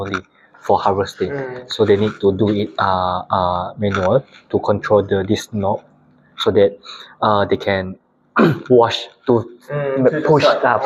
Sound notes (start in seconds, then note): 8.4 clears throat; 9.1 laughs